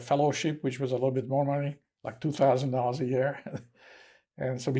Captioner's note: laughing